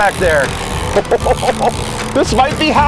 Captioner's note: laughing